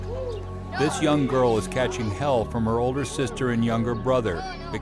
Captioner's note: voiceover